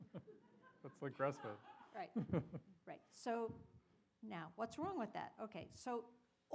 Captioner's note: laughter